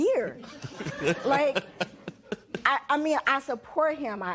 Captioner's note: laughs